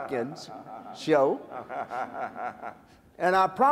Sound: laughter

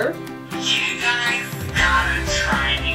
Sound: voice From Phone

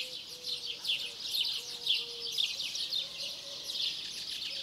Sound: birds chirping

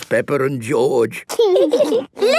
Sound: laughing

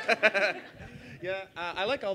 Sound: laughs

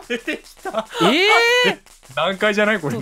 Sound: wheezes

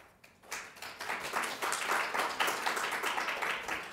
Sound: audience claps

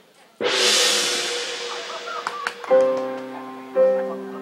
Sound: gong bangs; gentle music

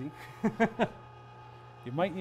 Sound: laughs

